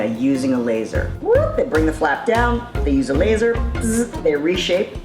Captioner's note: buzzing